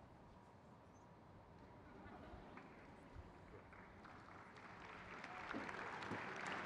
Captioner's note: crowd claps; people cheering